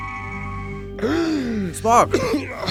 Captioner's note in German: keucht